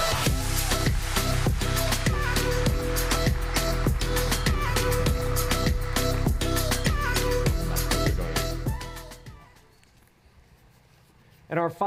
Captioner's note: applause